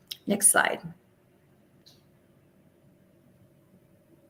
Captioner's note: silence